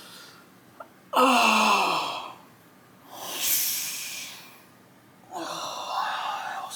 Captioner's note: pained grunts